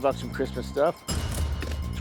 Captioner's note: cash register dings